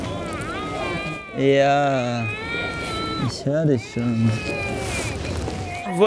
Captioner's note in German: Baby schreit